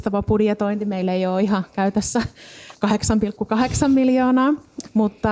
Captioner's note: laughs